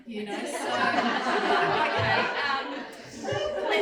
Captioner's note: crowd laughs